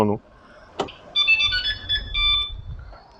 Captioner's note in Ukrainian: сигнал постановки автомобіля в охорону